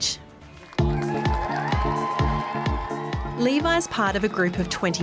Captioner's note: cheering and applause